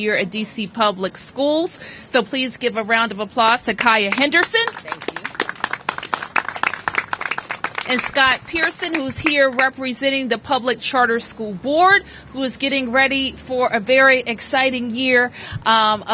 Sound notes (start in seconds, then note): 6.1 applause